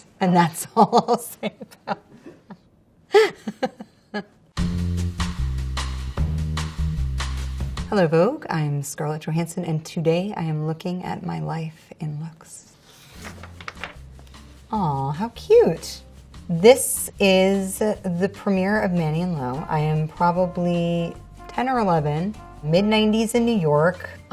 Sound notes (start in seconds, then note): 3.1 Scarlett laughs; 4.6 groovy music; 12.9 page rustles